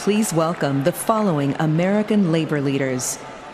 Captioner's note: cheers and applause